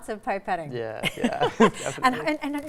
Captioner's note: laughing